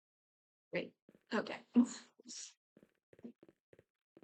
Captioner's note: laughs